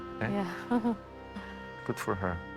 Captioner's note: lightly laughing